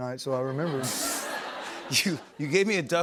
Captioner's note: laughter